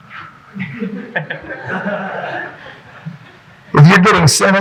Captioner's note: audience chuckling